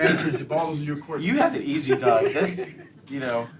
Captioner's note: laughter